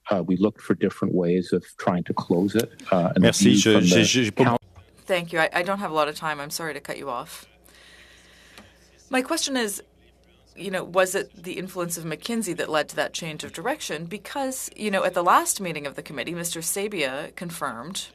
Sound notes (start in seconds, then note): 9.4 speaking French